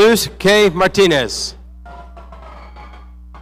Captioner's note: none